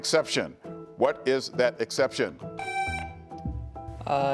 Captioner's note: buzzer beeps